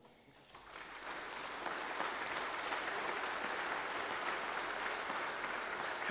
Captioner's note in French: Applaudissements